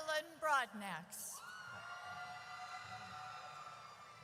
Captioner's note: audience cheers